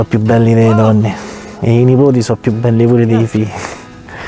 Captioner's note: laughter